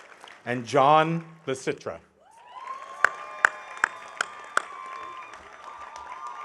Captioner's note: audience cheering